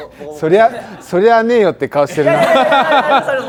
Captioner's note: laughs